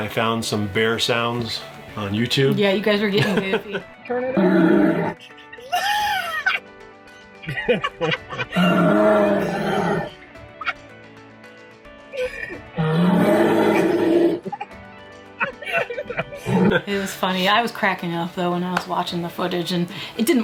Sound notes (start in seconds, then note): 4.1 bear grunting; 5.9 laughing; 8.8 bear grunting